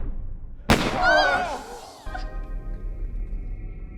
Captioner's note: gun firing